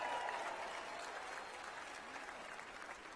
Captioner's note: cheers and applause